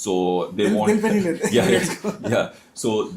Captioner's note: laughter